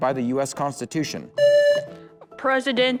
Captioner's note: buzzer